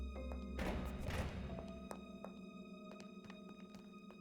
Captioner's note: door rattling